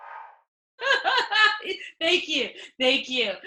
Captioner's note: still laughing